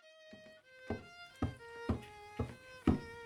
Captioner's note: footsteps